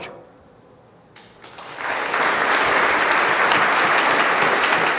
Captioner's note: applauding